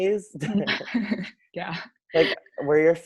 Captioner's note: laughs